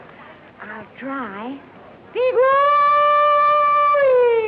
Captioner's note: hollering